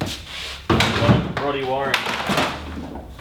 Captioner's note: clattering and thuds